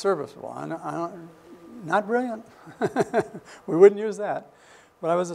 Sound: laughs

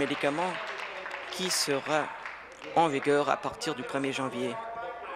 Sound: applause

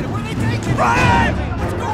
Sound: crowd ambience

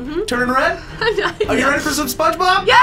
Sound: sighs

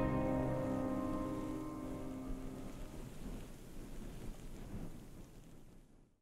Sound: wind rustling; fire crackling

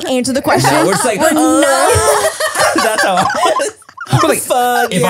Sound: everyone laughs

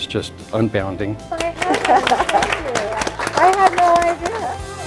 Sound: all applauding

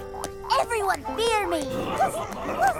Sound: laughing

